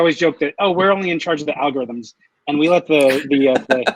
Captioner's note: laughs